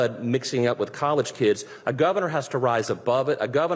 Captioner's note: none